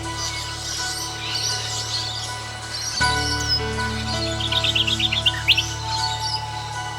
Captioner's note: ambient sound, birds songs and chirps